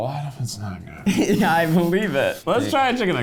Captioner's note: giggling